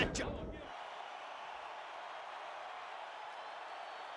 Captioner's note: crowd cheering